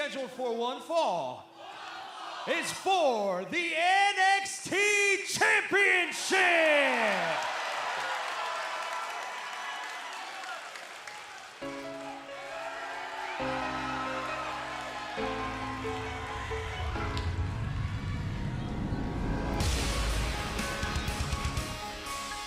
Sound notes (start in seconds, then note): 5.7 cheers and applause